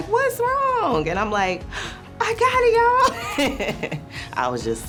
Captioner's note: laughter